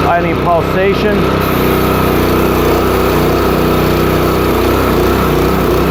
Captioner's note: engine runs, paint sprays